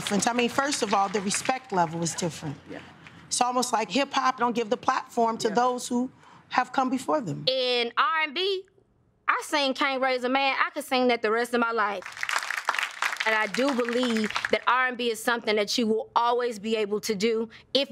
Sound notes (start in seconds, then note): 12.0 audience claps